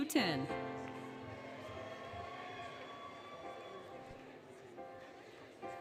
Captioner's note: applause, Cheering, Music